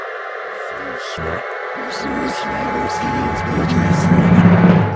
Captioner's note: demonic voice speaking; jaunty music